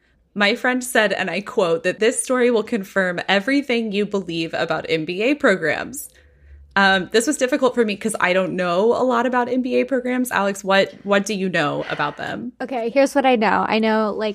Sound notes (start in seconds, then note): none